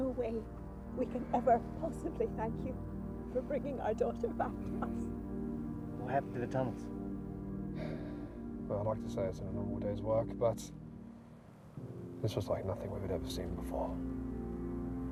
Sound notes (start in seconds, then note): 7.7 sighs